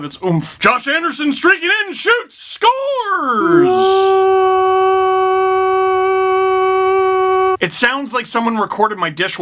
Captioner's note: broadcaster voice; impression of the goal horn